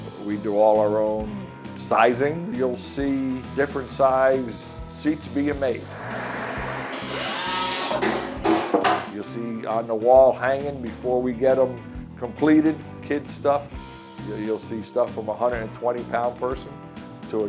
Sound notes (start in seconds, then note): 5.6 saw whirring; 5.6 tools clattering